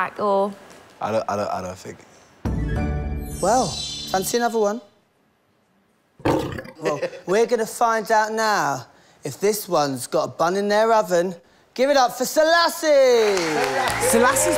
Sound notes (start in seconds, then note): 6.2 lion roar